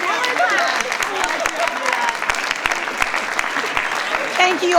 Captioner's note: attendees applauding; attendees cheering